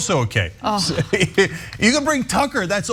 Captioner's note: laugh